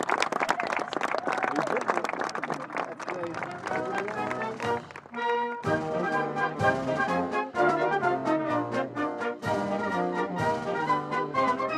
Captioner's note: applause